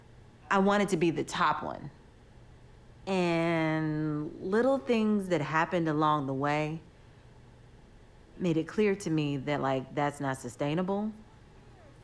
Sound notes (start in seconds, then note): none